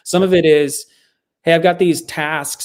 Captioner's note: none